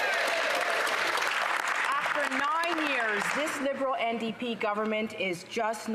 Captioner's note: some Applause